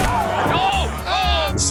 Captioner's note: thudding; grunting and thudding